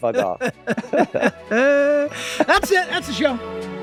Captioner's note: both laughing